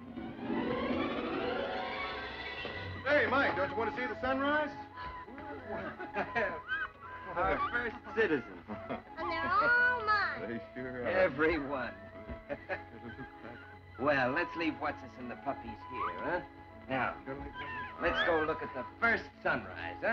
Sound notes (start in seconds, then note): 7.2 Drake Chuckling; 12.3 chuckles